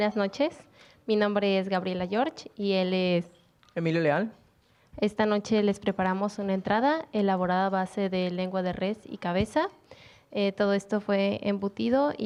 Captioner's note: speaking Spanish